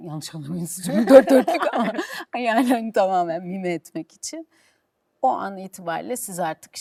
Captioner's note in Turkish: kahkaha